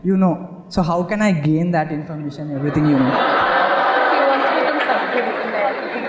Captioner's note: laughter